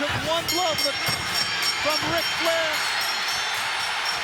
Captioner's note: kicks thudding; bell ringing; crowd cheering